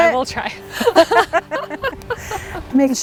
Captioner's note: laughs loudly